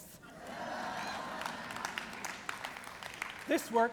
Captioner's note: laughter